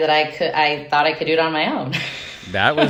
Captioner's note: laughing